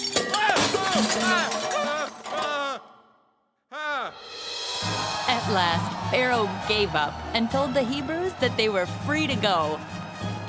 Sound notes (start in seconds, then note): 0.0 glass breaking; 1.1 shouting; 4.8 cheering